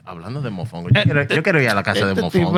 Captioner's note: speaking Spanish